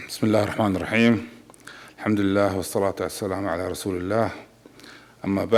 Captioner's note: speaks in foreign language